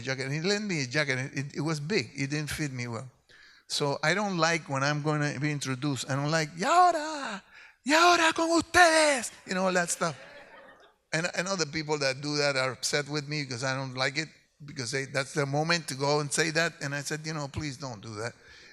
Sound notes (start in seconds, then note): 7.4 speaks in Spanish